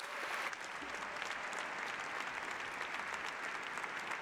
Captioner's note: applause